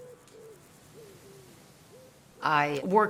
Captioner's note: dove cooing